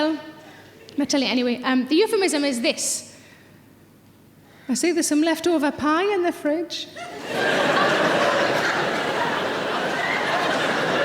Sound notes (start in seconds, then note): 7.0 audience laughing